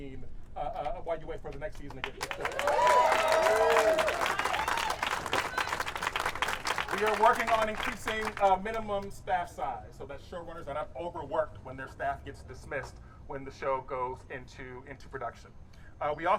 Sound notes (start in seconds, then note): 2.2 audience cheering